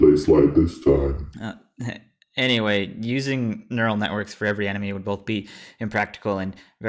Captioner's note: nervous laughter